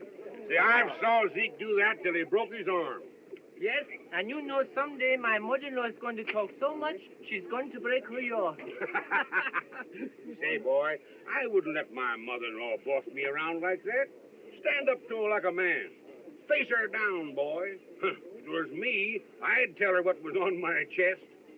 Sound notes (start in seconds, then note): 7.7 laughs